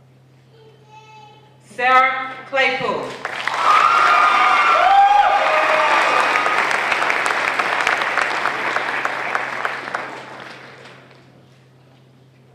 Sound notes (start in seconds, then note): 3.0 applause